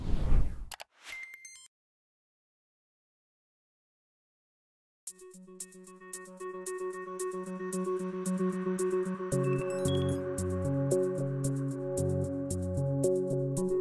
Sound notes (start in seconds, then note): 1.1 computer click; 5.5 cheerful music